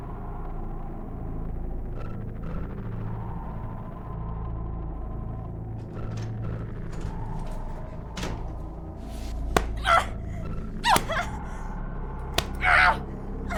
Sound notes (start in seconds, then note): 5.6 opening door; 9.4 thumping belt; 12.3 Ashley screams